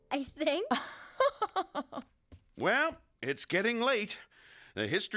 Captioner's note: laughs